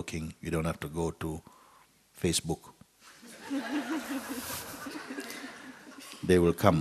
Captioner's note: laughter